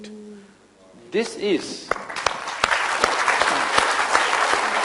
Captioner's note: applause